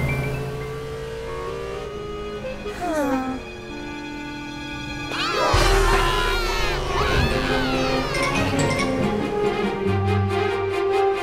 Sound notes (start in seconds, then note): 0.3 both sigh; 5.0 shouting, screaming